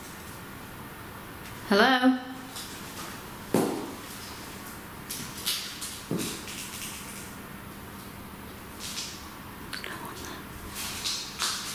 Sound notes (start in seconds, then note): none